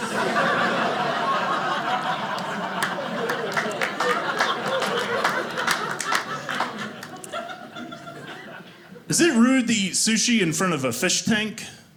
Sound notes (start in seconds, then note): 0.0 audience laughing; 3.3 audience clapping